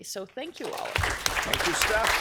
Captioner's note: applause